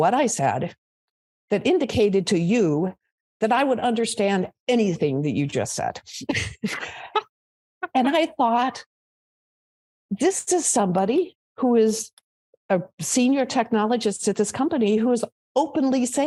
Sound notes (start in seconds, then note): 7.8 laughs